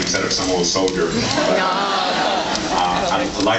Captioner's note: laughs